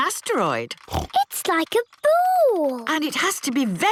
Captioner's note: snorts